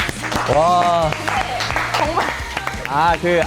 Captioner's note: applause for a masterpiece